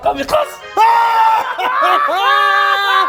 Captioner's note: laughs in victory; laughs in defeat